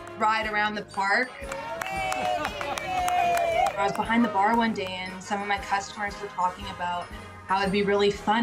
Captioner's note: cheers and Applause